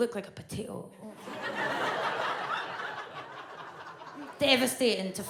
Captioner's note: audience laughs